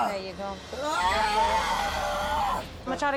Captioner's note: yelling